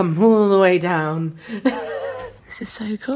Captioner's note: laughs